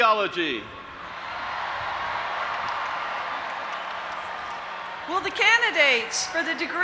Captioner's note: audience applauding and cheering